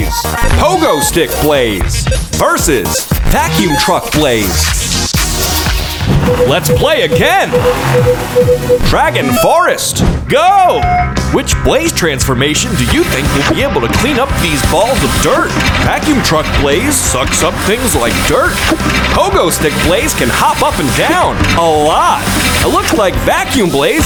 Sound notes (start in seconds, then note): 6.2 beeping